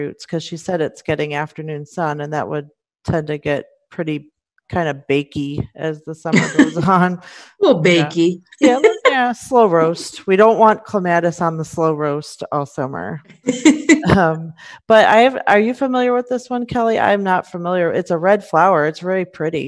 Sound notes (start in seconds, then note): 6.3 chuckles